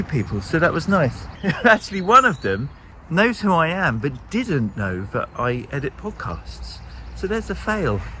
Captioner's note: laughs